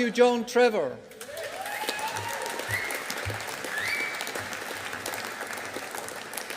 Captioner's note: audience applauding